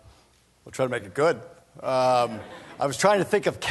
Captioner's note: laughter